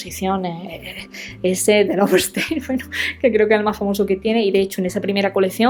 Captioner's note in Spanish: risas